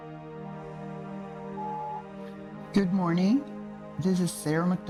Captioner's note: phone beeping